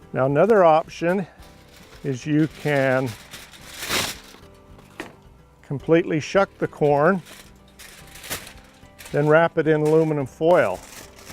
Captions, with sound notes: Now another option, is you can [TEARING SOUND] Completely shuck the corn, [CRUNCH NOISES] Then wrap it in aluminum foil.